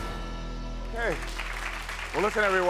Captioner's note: audience applauds